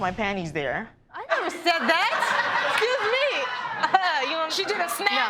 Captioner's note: audience laughing